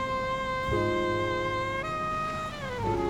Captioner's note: indistinct chatter